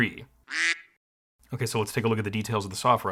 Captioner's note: duck quacking